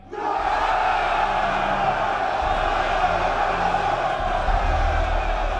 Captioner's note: crowd cheering